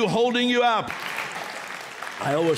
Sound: applause

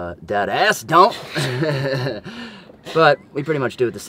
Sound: laughter

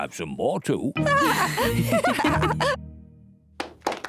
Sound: lady pigs giggle

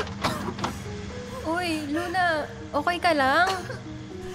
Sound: LUNA coughs; LUNA coughs

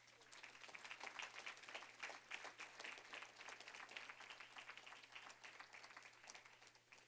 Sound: applause

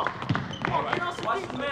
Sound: team running

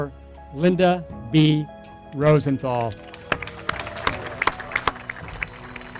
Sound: applause

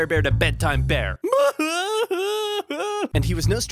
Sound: crying loudly

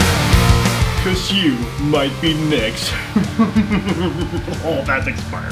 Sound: laughs

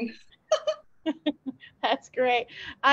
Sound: laughs

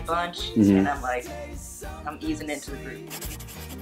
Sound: murmers in agreement

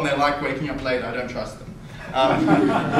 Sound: audience laughter

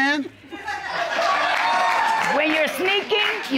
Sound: audience laughing

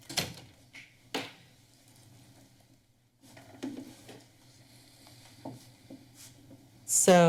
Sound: silent

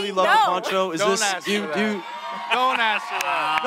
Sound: cheering

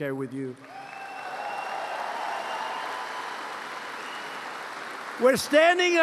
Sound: applause

